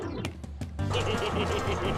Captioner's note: giggling